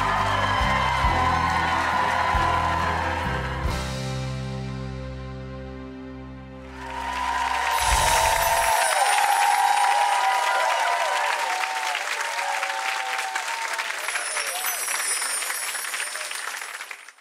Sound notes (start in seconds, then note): 6.8 crowd cheering; 14.0 chimes twinkling